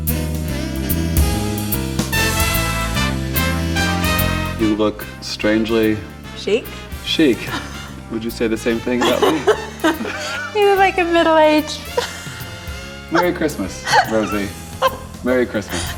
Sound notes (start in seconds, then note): 0.1 bright music; 8.7 laughs